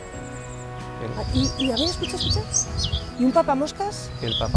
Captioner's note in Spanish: Canto de ave